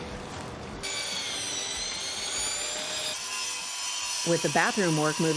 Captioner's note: tools whirring